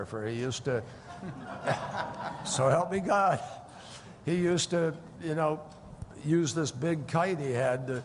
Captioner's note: laughter